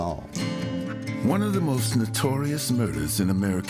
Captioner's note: voiceover